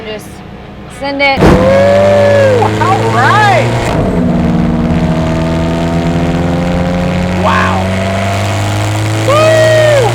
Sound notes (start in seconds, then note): 1.4 engine roars